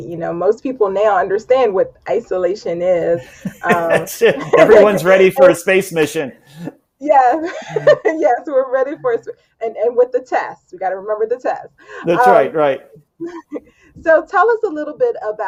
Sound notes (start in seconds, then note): 3.2 laughs